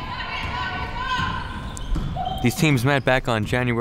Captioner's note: team cheering